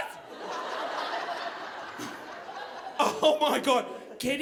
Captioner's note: audience laughing